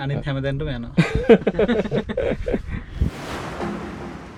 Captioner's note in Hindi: हस रहा